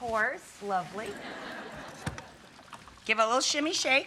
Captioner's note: audience laughs